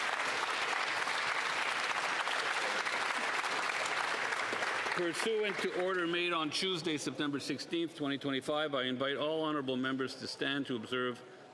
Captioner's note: applause